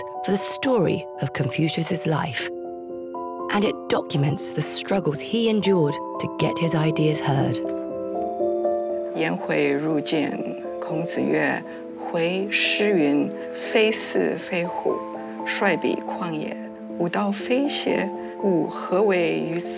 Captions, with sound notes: for the story of Confucius's life and it documents the struggles he endured to get his ideas heard. (speaking Chinese)